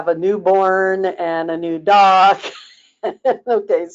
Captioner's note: laughing